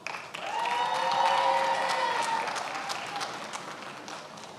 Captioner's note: attendees applauding